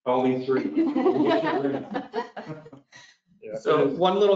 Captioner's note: all laugh